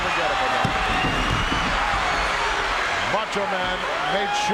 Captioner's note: audience cheering